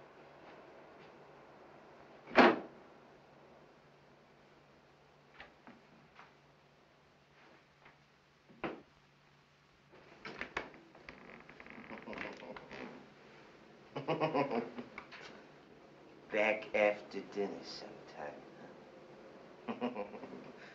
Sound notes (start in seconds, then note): 13.9 chuckling; 19.6 laughing